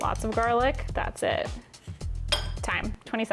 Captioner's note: plate clinking